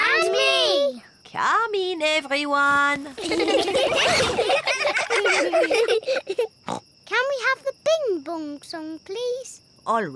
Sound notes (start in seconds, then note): 3.1 all giggling; 6.3 snorts